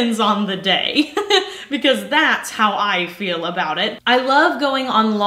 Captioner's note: laughs